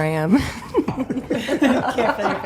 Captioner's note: all laughing